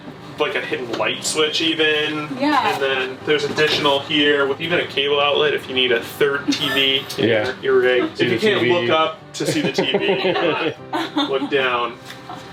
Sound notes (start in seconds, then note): 9.4 laughter